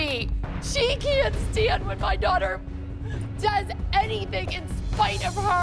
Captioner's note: crying